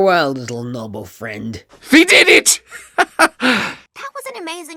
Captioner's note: laughs happily